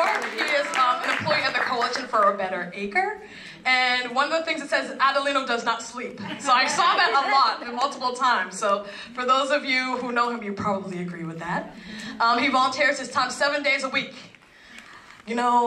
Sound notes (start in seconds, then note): 0.0 applause; 6.6 laugh